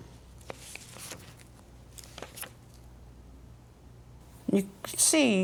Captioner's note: shuffling papers